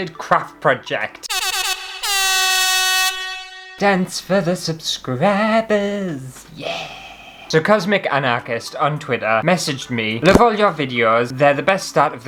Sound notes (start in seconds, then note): 1.3 air Horn!!